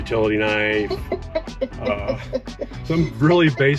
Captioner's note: chuckling